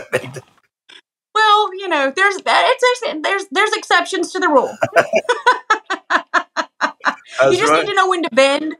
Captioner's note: laugh; laugh